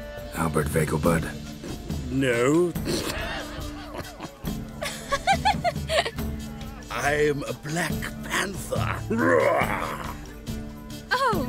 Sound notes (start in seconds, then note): 2.8 snicker; 5.0 laugh